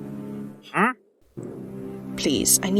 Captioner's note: villager noise